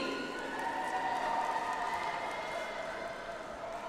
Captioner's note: audience applauds